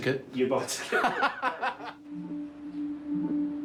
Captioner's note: laughing